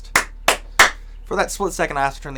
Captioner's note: claps